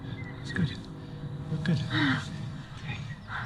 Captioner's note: relieved sigh